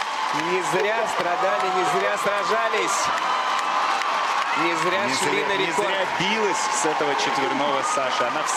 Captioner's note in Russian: ликование